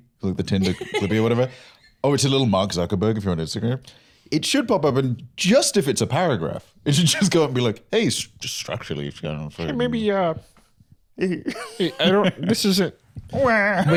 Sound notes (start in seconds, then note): 10.0 Kermit-esque voice